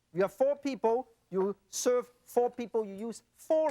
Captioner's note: none